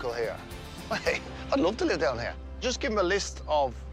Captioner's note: chuckles